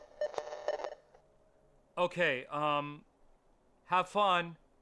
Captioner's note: signal interference